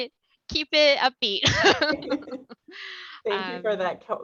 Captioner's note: laughter